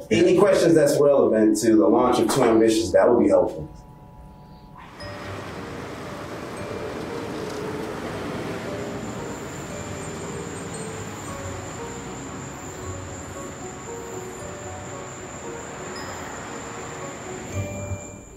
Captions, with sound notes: any questions that's relevant to the launch of 2AMBITIOUS.com, that would be helpful. (mysterious music) (traffic humming) (crickets chirping)